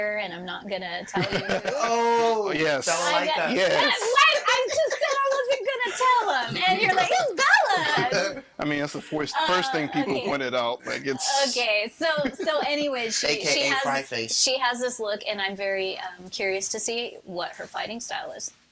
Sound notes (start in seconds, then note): 1.2 infernal laughing; 6.1 all laughing